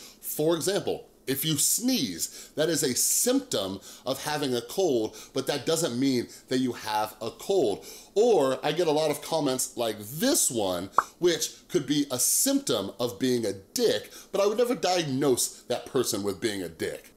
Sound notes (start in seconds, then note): 11.0 popping